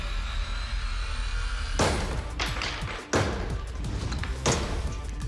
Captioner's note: chopping sound